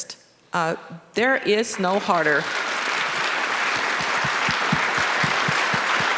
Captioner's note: audience applauding